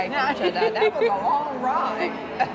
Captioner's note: laughs